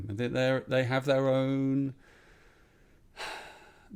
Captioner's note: exhales